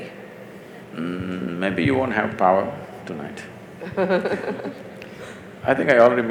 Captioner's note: Barkha Dutt Laughs